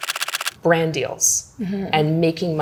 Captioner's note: camera clicking